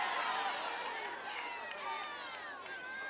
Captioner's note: applause